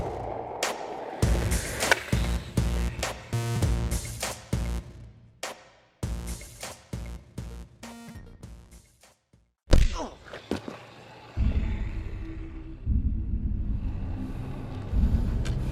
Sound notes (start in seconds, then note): 1.2 upbeat music continues; 9.8 fist whacks; 11.4 tense music